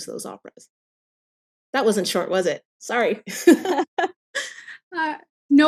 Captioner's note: laughs